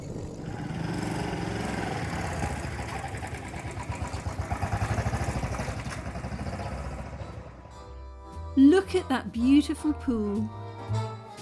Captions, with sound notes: [motorbike engine] [smooth jazz music] Look at that beautiful pool.